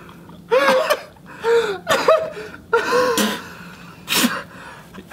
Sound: spitting and coughing; laughing

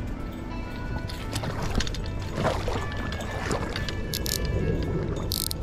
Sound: water splashing; drag reel cranking

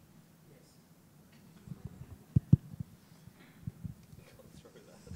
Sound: speaking faintly

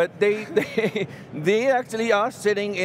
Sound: laughs

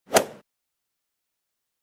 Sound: swoosh

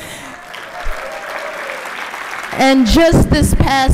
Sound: applause

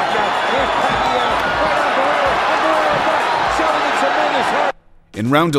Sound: crowd cheering

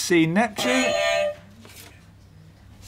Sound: beep beep

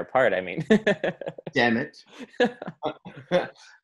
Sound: laughs

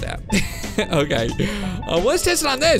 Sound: chuckles

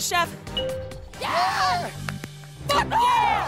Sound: cheers

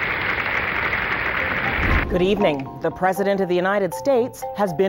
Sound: applause

